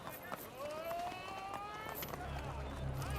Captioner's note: indistinct chatter